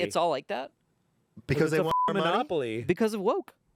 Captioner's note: beep